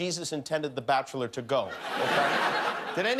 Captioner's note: laughter